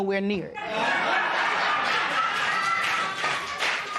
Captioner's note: laughter